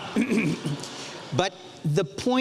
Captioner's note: audience laughs